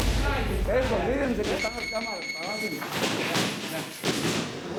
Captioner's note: beeping